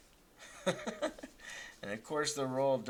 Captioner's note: laughing